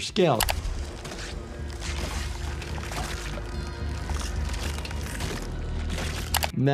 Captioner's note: cracking sounds